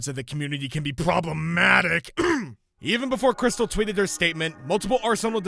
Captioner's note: cough